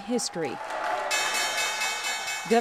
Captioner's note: bell ringing